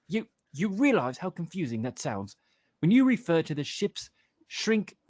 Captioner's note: none